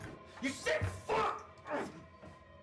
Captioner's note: grunts; tense music